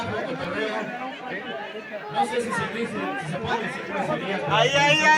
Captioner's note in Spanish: ruidos y risas